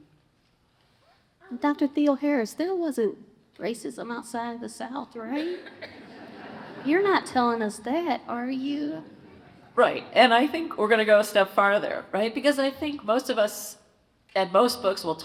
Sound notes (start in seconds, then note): 5.4 congregation laughs